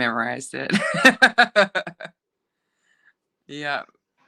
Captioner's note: laughing